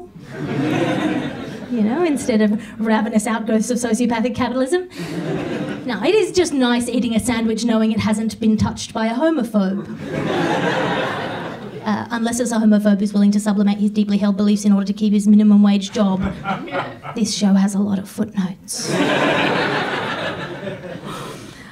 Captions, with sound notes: (audience laughs) instead of ravenous out goes sociopathic capitalism. (audience laughs) Now, it is just nice eating a sandwich knowing it hasn't been touched by a homophobe, (audience laughs) unless it's a homophobe who's willing to supplement his deeply held beliefs in order to keep his minimum wage job. (man in audience laughs) this show has a lot of footnotes. (audience laughs)